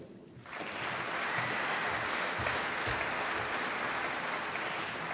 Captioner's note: applause